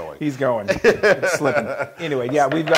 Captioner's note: laugh